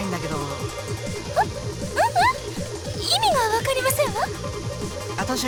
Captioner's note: sputtering